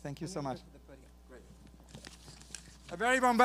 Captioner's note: speaks softly